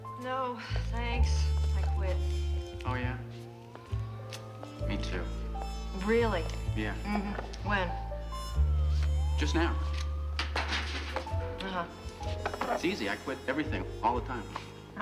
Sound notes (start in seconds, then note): 10.4 clatters